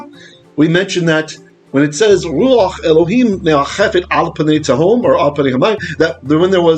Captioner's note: Hebrew